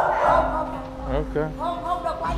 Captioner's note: non-english speech; dog barking; non-english speech